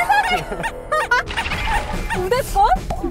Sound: laughing

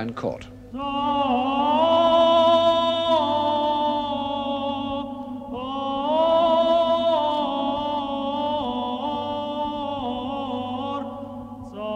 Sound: chanting

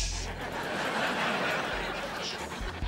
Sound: laughing

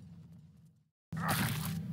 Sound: squelching, crunching sound

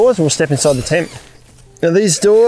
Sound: zip hissing

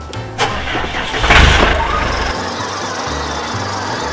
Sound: engine revs

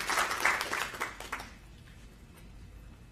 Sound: applause

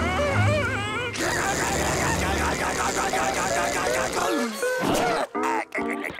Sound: groaning; screaming

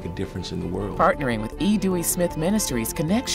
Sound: voiceover

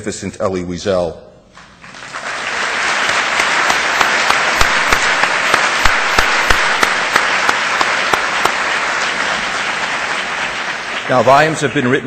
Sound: audience applause

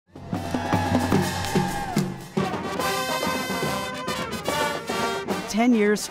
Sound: marching band playing; people cheering

